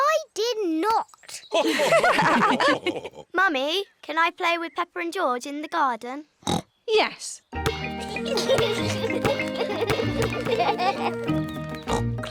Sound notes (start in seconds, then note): 1.6 others laugh; 6.4 oinks; 7.8 youngsters giggle